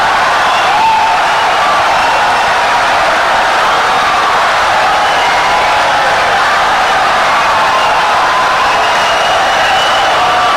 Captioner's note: wild applause and cheering for 17 seconds